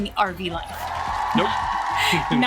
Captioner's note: loud applause